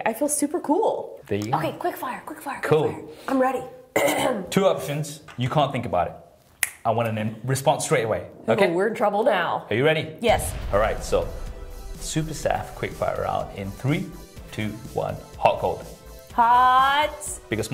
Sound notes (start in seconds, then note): 6.5 snap